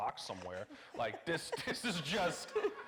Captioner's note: audience laughing